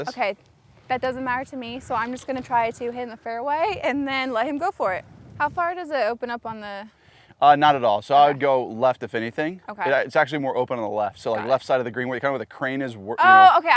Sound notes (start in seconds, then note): none